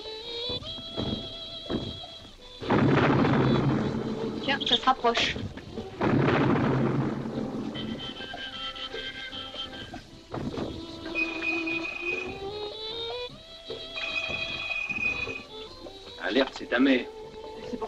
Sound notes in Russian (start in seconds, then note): 2.6 звуки взрывов приближаются; 11.2 звонок